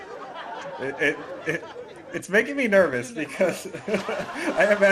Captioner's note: laughs